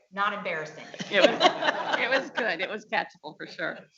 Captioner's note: audience laughing